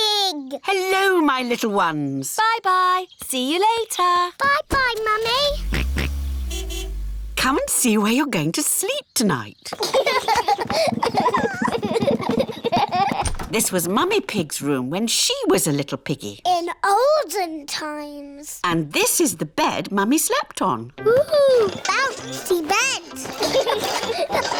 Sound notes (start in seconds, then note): 5.3 george oinks; 5.4 car horn honks; 9.7 children laugh; 21.3 children laugh